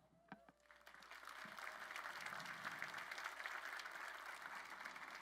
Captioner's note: crowd applauding